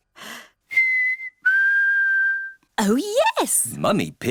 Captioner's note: whistles